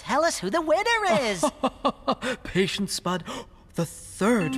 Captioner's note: chuckling